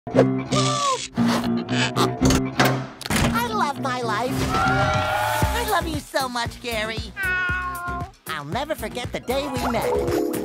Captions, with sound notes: Woo! I love my life! (Cheering) I love you so much, Gary. Meow. I’ll never forget the day we met.